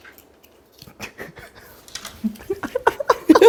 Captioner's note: failed to hold back laughter